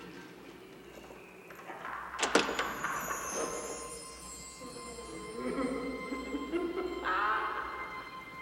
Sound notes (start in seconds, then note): 2.1 Sir Simon laughing; 4.6 eerie music